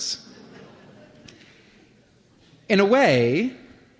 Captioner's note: laughter